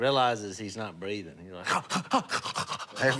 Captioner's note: breathes heavily